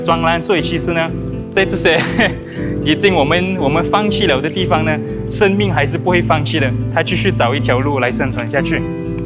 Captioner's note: laughs